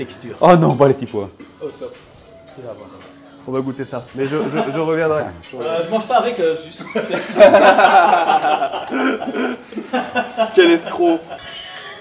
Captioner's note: laughs